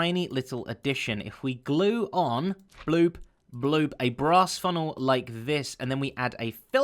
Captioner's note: bloop Bloop